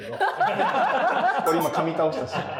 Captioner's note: laughing